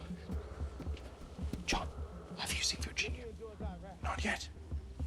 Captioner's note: whispering